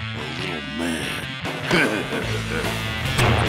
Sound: laughing

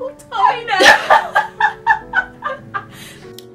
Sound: both laugh

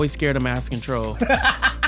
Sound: chuckles

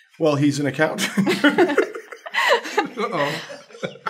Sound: laughter

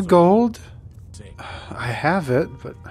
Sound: sighs

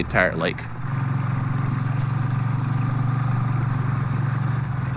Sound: engine putters

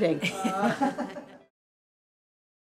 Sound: laughter

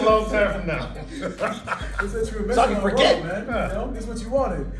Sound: laugh

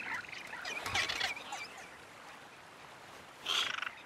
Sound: Moana giggles excitedly; birds warbling

